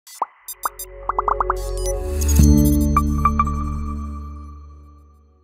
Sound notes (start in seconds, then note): 0.5 gentle intriguing music; 1.1 bubbles popping sounds